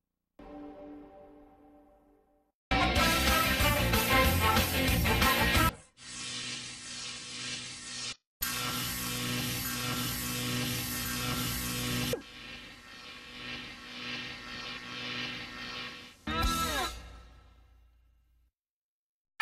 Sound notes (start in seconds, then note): 2.7 rock music plays; 5.8 electricity noises resuming